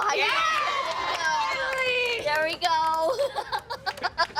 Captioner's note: cheering